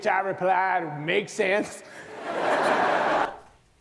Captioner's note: laughter